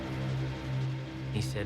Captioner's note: dramatic music; insects chirping